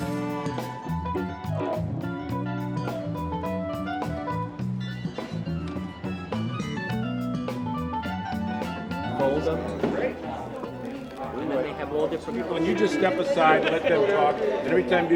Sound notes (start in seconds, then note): 0.1 upbeat music; 9.6 crowd chatter